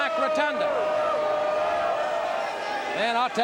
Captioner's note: audience cheers